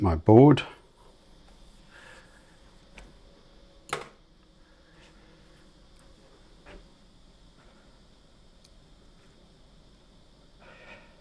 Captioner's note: silence